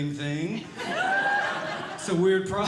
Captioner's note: audience Laughing